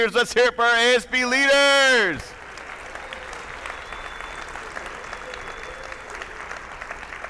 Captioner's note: attendees cheering; attendees applauding